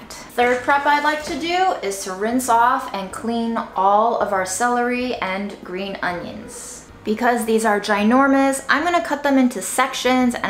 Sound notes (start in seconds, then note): none